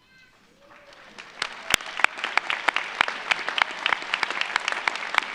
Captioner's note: audience applauds